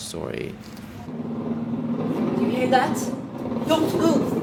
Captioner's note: bombs exploding